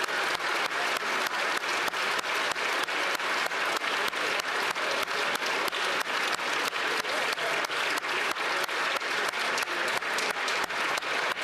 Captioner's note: applause